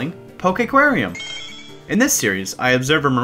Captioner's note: Gen 3 shiny sound effect for new logo